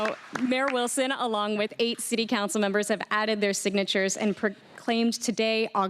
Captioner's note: applause